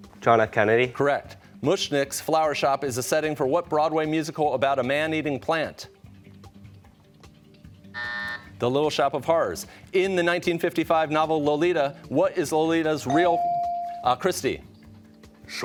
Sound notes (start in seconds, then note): 7.9 buzzer sounds